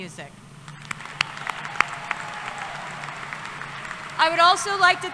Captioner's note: applause